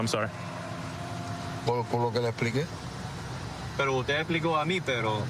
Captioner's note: speaking spanish